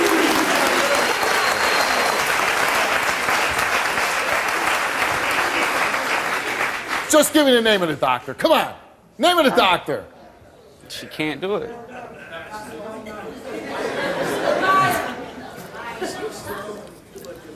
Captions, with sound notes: (audience cheers and applauds) - Just give me the name of the doctor, come on! Name of the doctor. - She can't do it. (audience muttering, laughing)